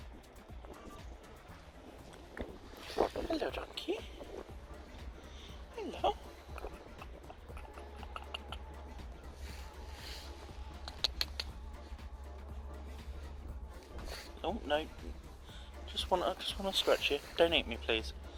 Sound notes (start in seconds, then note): 10.5 click, click, click, click